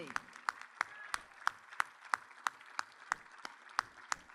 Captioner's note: audience applauds